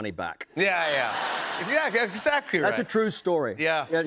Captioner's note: laughter